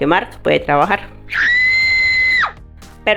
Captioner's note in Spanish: grito